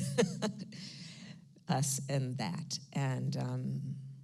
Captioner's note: laughs